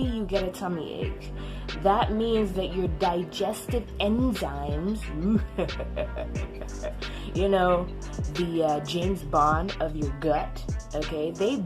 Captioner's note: fake-villain-laugh